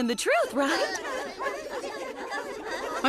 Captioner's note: students stammering